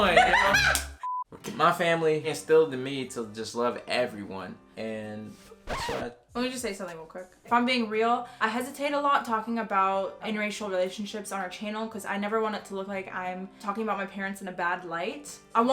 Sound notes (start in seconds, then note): 0.0 laughing; 5.6 record scratching